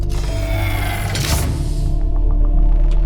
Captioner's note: airtight door seals; air compressing